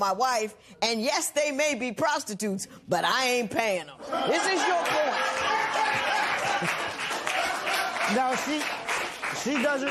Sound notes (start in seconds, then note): 4.2 laughter, applause